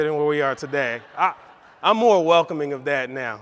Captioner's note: audience laughs